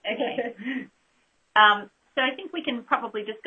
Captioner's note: laugh